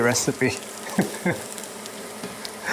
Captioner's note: chuckles